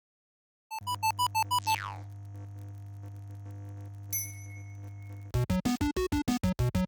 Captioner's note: video game sounds